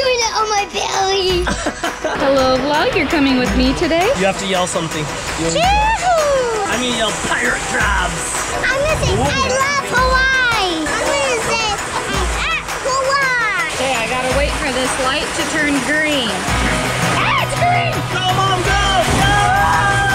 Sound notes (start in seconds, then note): 1.4 laughs; 6.1 shouts